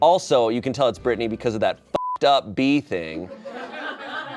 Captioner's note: beep